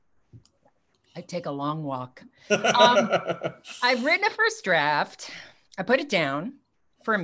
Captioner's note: laughs